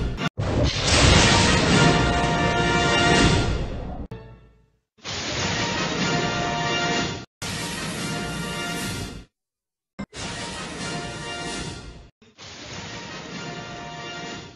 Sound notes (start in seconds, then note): 0.5 lightning crashing down as rousing fanfare plays; 5.2 lightning crashing down as rousing fanfare plays; 7.3 electricity zapping as rousing fanfare plays; 10.0 lightning crashing down as rousing fanfare plays